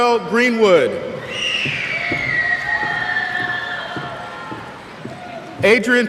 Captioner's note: cheers